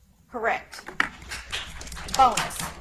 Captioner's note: audience applauds